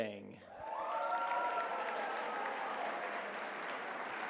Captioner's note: applause